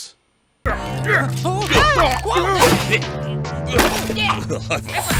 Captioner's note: struggle grunting